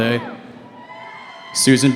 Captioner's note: cheering